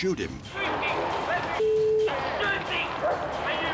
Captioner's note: beep